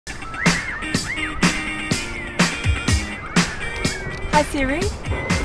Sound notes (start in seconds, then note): 0.1 car alarms blaring